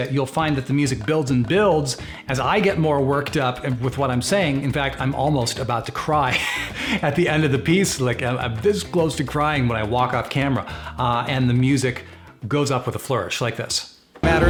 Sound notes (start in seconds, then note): 6.3 laughs